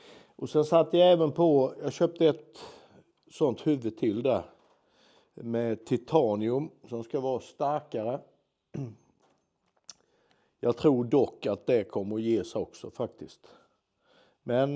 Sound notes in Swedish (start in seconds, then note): 8.7 harklar sig